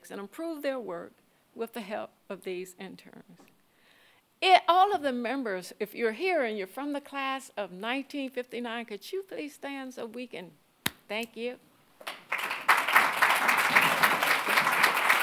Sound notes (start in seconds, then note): 12.0 audience clapping; 12.0 claps